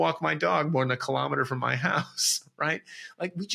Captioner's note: laughs